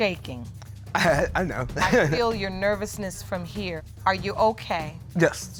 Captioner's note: chuckling